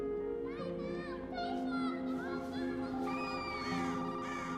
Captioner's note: kids shouting